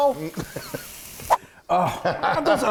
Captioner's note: laughing